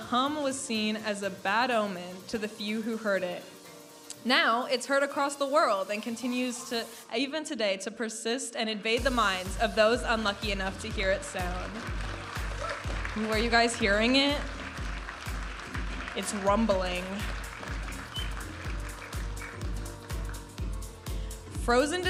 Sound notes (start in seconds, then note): 18.1 audience applauding; 20.4 vibrant music